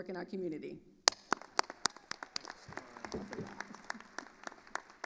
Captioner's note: attendees applauding